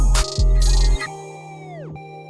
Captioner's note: none